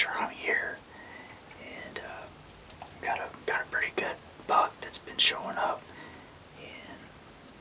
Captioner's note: whispering